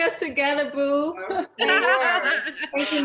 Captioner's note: laughing